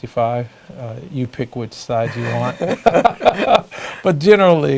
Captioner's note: laugh